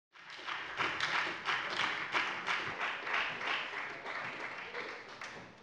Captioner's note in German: Beifall bei der FDP und der SPD